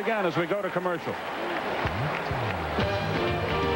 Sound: cheering

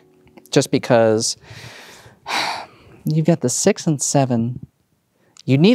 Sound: sighs

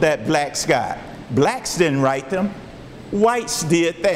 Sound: none

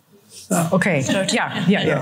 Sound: laughter

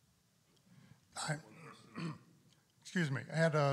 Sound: clears throat

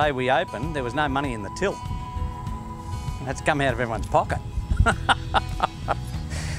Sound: laughs

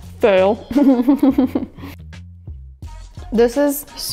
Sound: chuckling

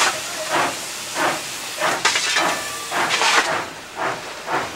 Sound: flames crackling

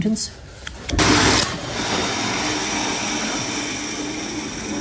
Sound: machine whirs

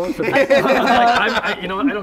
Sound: laughter

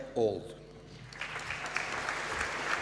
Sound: applause

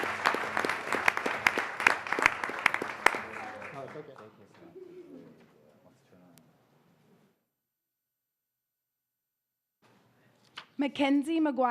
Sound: applause

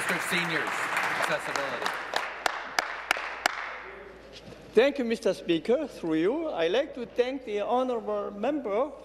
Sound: applause

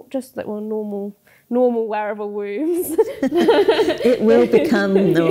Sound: both laugh

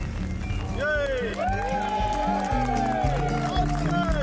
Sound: cheering and clapping

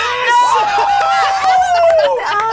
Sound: both laugh

